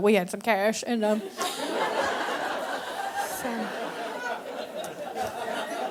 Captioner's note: audience laughing